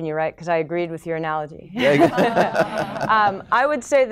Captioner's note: laughter